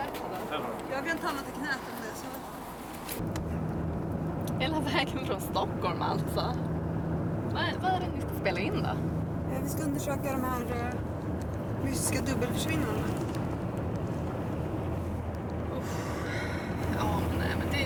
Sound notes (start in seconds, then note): 4.2 car driving; 15.9 therese sighs